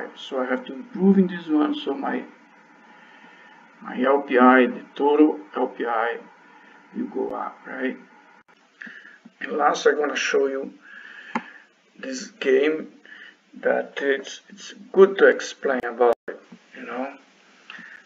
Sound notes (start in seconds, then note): 11.5 click